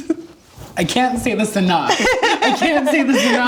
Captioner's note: laughs